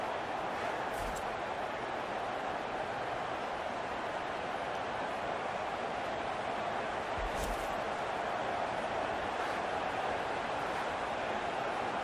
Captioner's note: crowd cheering